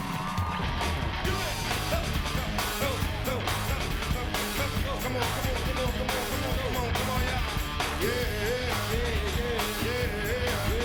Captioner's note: cheers and applause